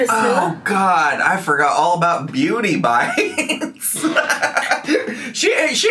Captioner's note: laughs